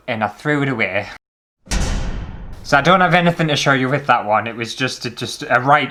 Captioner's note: thud